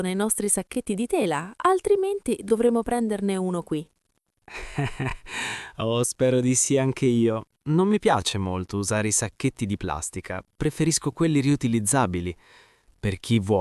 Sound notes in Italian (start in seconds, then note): 4.5 risate